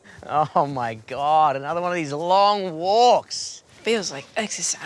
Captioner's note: none